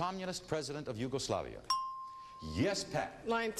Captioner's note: ding